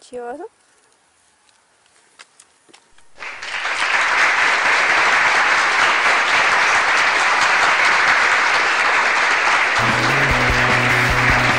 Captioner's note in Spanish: aplausos